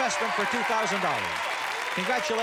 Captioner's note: cheers and applause